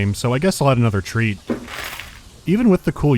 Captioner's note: slam